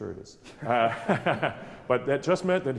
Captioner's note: laughing